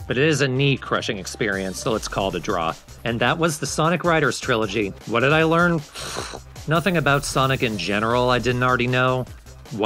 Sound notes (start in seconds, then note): 5.9 raspberry of regret